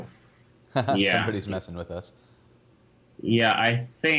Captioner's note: chuckles